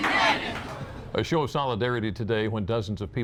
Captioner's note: applause